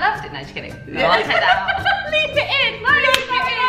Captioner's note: both laughing